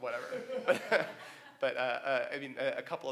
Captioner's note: laughs